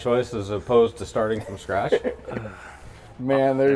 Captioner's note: laughing